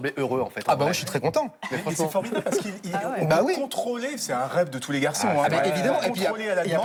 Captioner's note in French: rires